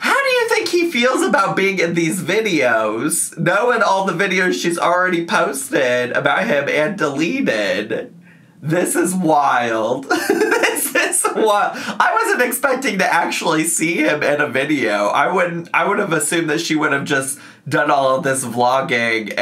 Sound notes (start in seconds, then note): 10.0 laughs